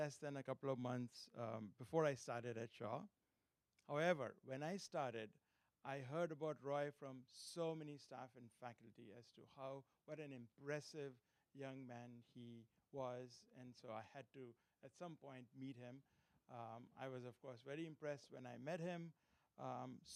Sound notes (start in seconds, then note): none